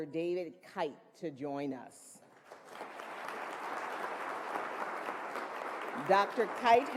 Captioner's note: applause